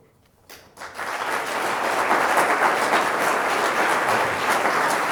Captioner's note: everyone claps